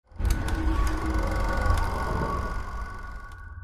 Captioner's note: film reel scrolling